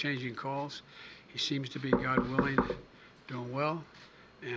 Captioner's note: knocks on podium wood